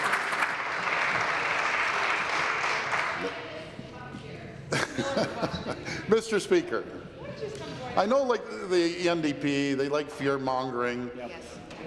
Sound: applause

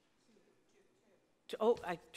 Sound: man speaking quietly

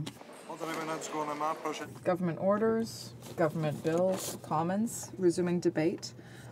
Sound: applause

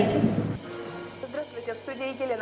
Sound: tv sound

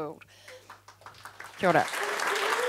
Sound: audience claps

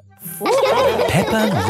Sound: all laughing

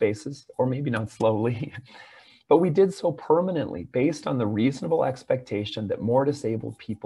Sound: laughter

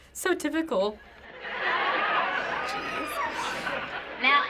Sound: canned laughter

